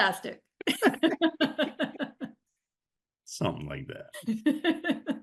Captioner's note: both laughing